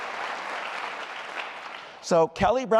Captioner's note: applause